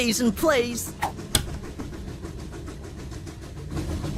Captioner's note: train chugging; clipping sound; train chugging